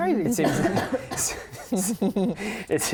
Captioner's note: laughing